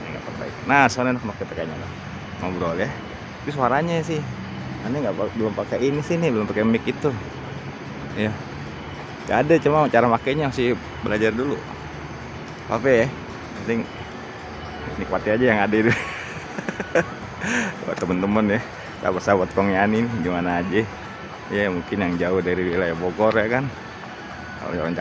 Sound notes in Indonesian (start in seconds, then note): 15.7 tertawa